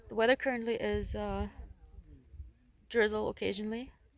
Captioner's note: none